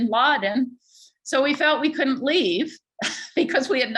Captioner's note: chuckles